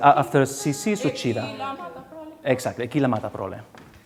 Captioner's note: speaking song lyrics in a foreign language